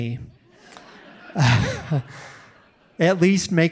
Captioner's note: audience laughing